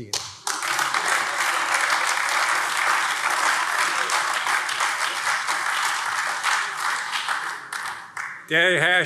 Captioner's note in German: Beifall AfD